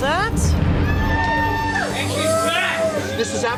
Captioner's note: cheers